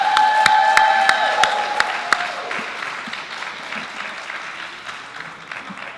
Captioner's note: applause